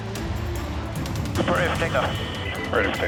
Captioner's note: man Over Radio; person Over Radio